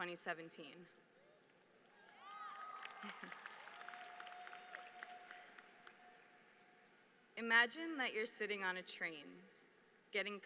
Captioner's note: applause